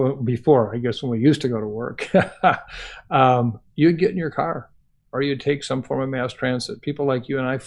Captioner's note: laughs